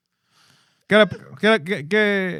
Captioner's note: speaking Spanish